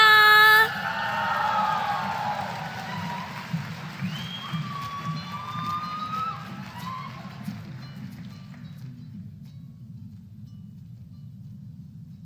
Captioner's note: applause